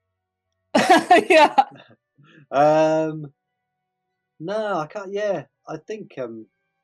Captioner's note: laughs